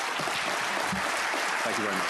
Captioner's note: applause